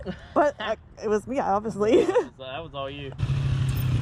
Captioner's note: laughing